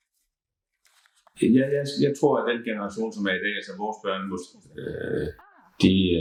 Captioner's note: speaking Danish